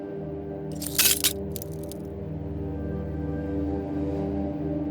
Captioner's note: glass cracking